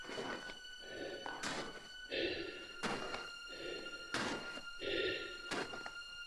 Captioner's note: Chemock breathes heavily